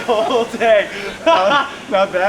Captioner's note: both laugh